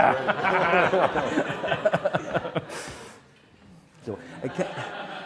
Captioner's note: laughing